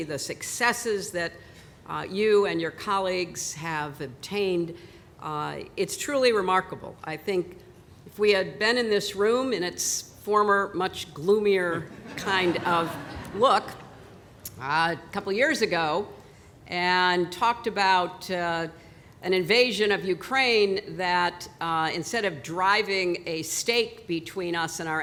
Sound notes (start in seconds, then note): 11.8 laughter